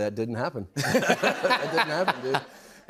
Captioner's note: laughter